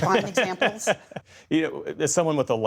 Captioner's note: laughter